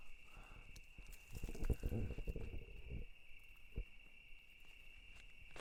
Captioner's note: crickets chirping